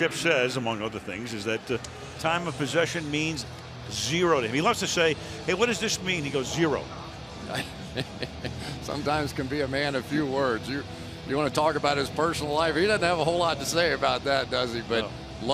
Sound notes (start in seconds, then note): 7.4 laughs